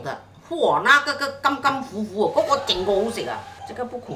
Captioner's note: Cantonese